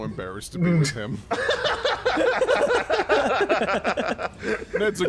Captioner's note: laughter